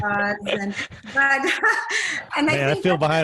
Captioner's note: laughing